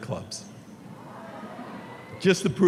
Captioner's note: audience cheering